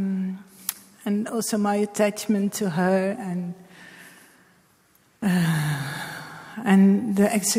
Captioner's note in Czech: hluboce vydechne